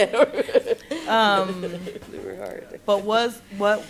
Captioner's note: laughs